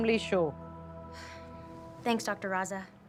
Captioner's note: sighs